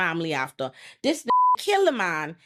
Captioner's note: beep